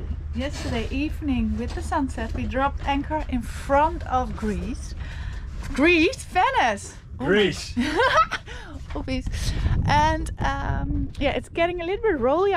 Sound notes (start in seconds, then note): 7.7 laughing